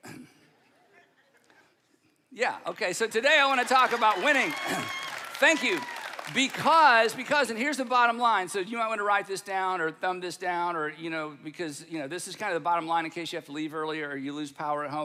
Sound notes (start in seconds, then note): 0.1 audience laughing; 3.0 audience cheering